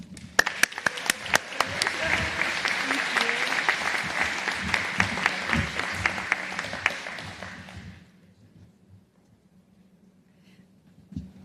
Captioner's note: applause